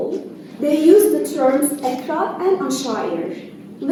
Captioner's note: non-english